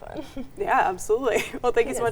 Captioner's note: chuckles